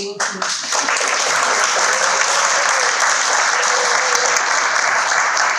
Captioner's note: audience clapping